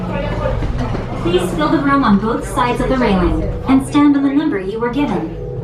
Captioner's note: announcer speaking overhead